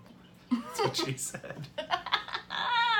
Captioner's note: among stifled giggles